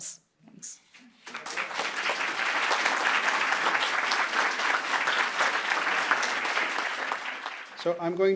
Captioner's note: applause